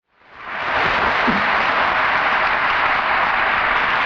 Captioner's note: audience applauding